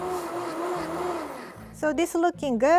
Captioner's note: blender running